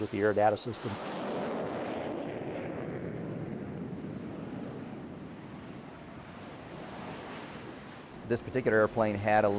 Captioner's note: jet engine